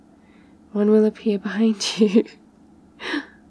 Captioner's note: laughs